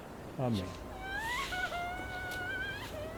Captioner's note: cries